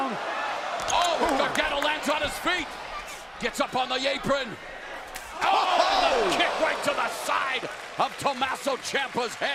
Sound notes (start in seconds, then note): 2.4 crowd chatter